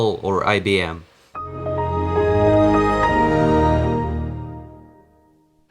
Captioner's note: startup sound